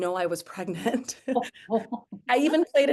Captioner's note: chuckles